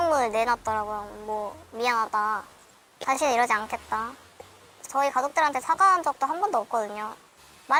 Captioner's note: voiceover